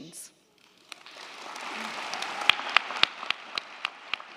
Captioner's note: crowd clapping